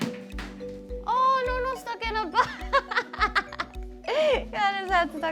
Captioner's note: laughs